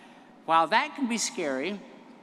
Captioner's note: none